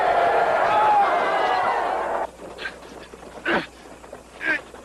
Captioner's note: grunting